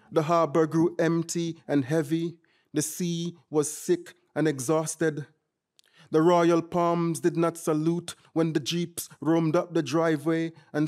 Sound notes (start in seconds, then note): none